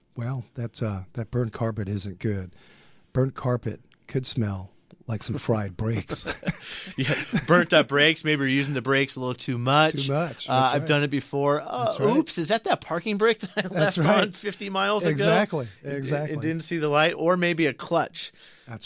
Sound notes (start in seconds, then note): 5.8 both laugh